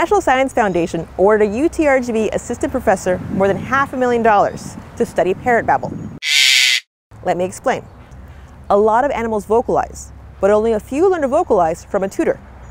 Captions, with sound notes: The National Science Foundation awarded a UTRGV assistant professor more than half a million dollars to study parrot babble. (Parrot squawk) Let me explain. A lot of animals vocalize but only a few learn to vocalize from a tutor.